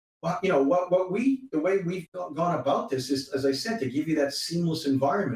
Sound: voice scrambles

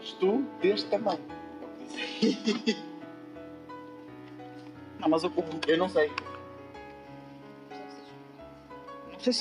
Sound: laughs

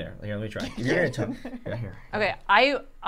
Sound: chuckling

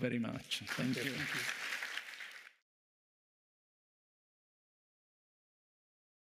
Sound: audience applauding

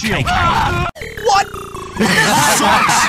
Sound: buzzer; aardvarks laughing

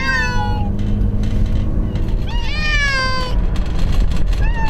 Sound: cats meowing

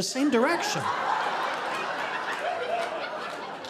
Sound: audience laughing

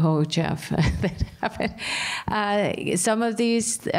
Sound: laughter

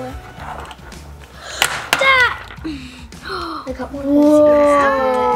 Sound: eggs crack; girl screams

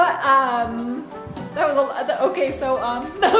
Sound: laughing

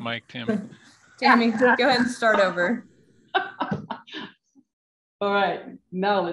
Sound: laughs

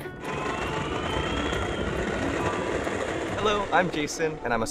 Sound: scooter whirring

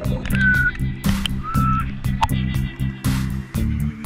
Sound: whistle

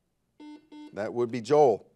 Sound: buzzer buzzes

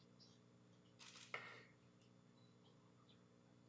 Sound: camera shutter clicking

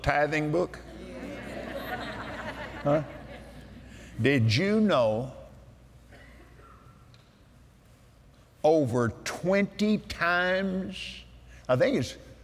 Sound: laughter

